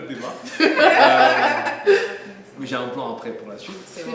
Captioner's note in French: rires